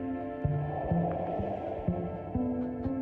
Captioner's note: wind blowing